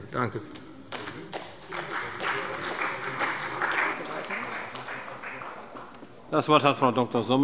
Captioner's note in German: Beifall bei dem BÜNDNIS 90/DIE GRÜNEN und der CDU